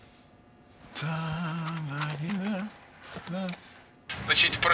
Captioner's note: hums